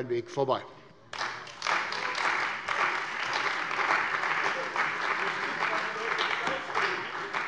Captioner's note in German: Beifall bei der CDU und dem BÜNDNIS 90/DIE GRÜNEN